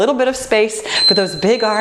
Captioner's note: beeping